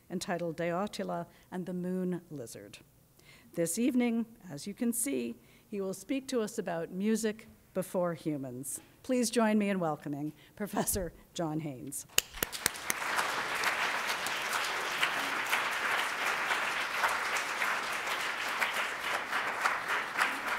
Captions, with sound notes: entitled "De Atula and the Moon Lizard." This evening, as you can see, he will speak to us about "Music Before Humans." Please join me in welcoming Professor John Haines. (audience applauding)